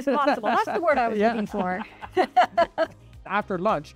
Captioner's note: chuckles